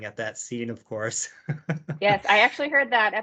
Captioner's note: laughs